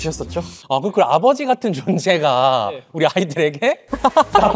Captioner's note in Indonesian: tertawa